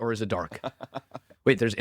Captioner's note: laughs